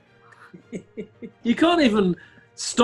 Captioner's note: chuckling